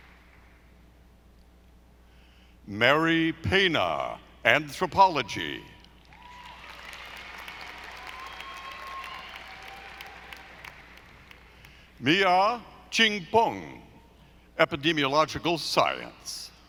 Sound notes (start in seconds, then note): 6.2 audience applauding